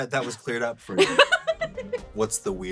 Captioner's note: laughs